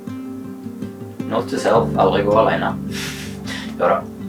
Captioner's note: laughs